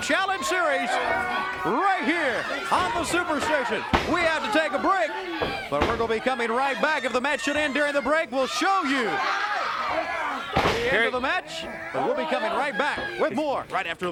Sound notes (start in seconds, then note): 0.6 crowd chatter; 1.9 crowd cheering; 10.9 crowd chatter